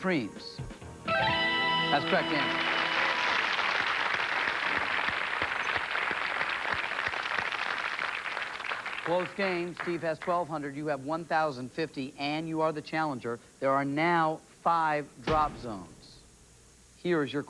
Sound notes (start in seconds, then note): 1.0 fanfare; 3.6 cheers and applause